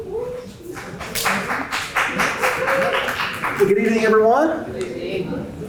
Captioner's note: applause